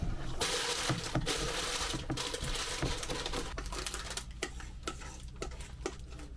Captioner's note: crunching